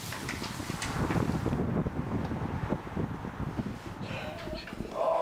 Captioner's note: wind whooshing